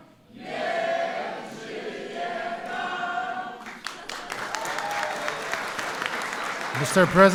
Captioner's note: applause